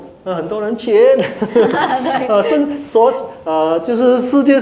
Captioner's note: laughter